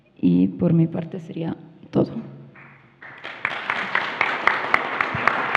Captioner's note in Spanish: Aplausos